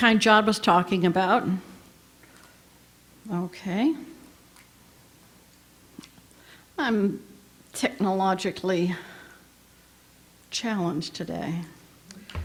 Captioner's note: pause